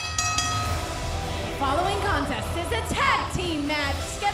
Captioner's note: bell ringing